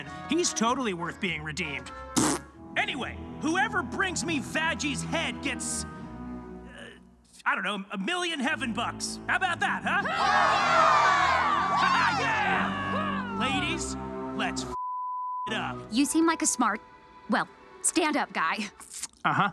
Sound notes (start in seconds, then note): 2.1 blows raspberry; 9.8 angels cheer; 14.7 beep